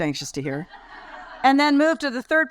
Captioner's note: audience laugh